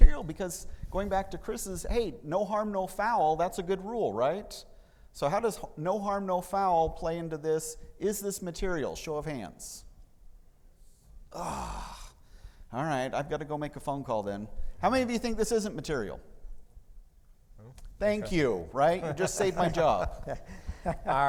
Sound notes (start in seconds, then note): 11.3 groans; 19.0 laughing